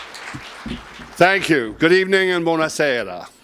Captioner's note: applause